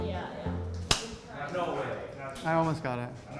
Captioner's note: background chatter